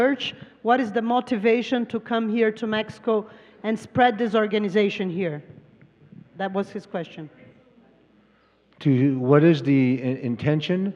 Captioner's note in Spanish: Traductora habla en inglés; Expositor habla en inglés